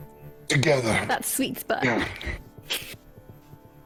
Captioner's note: grunts